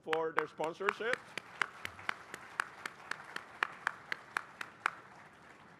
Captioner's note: applause